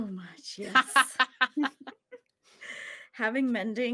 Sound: laughs

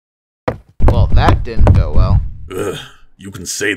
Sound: footsteps; large footsteps

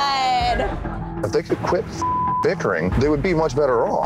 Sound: beep

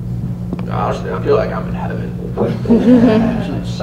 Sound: laughter

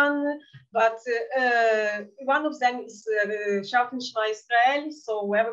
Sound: speaking in Yiddish

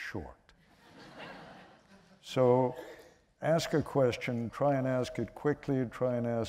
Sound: laughter

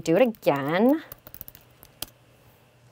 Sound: typing

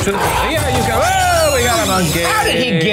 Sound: Murder Monkey screeching

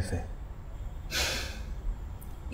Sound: sighs

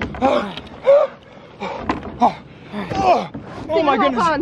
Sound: panting

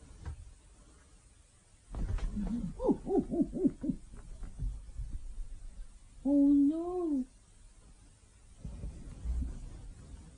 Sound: some funny monkey noise I made

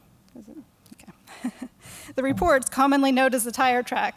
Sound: chuckles

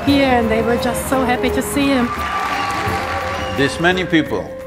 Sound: applause

